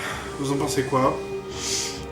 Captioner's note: sigh